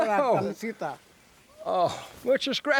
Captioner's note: ranger speaks in foreign language